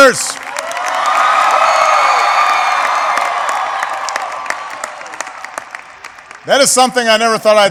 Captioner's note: applause